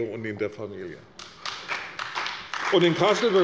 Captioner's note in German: Beifall bei der CDU und dem BÜNDNIS 90/DIE GRÜNEN